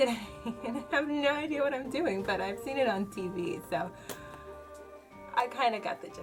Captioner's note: laughs